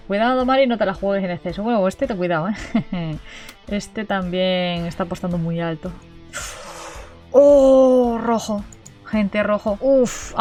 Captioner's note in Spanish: risas